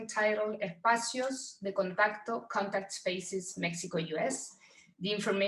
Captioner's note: speaks in foreign language